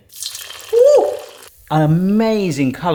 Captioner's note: sizzling sound